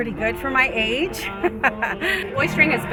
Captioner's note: laughs